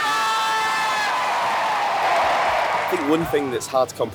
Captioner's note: cheering